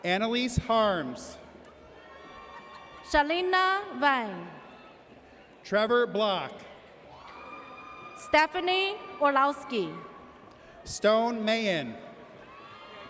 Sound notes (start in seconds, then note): 1.9 audience cheers